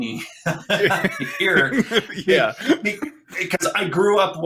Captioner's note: laughing